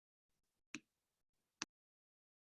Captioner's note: click